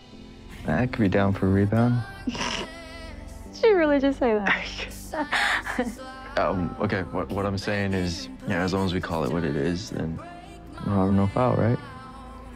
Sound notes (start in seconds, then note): 2.2 chuckles; 5.2 both chuckle